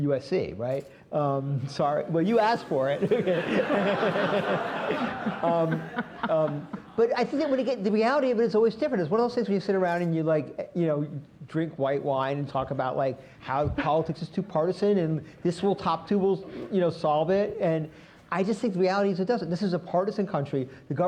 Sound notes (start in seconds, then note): 2.6 laughter